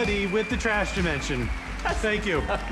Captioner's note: audience cheers, applauds